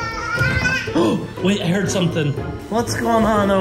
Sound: gasps

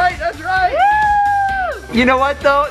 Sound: cheering

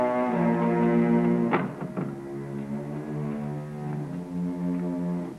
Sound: door closes

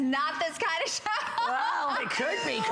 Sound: laughter

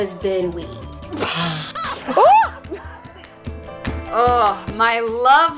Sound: laughing

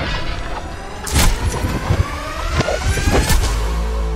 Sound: thuds

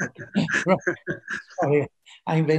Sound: laughs

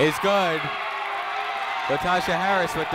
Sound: people cheering in the crowd

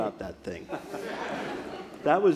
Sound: audience laughs

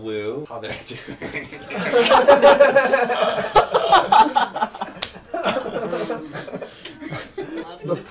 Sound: laughter

